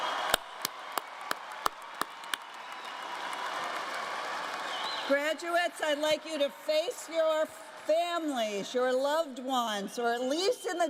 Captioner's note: applause